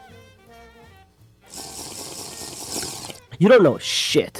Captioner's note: sipping